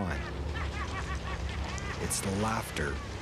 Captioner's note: laughing